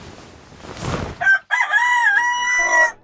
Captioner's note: rooster Crows